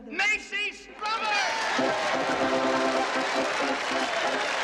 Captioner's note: Аплодисменты аудитории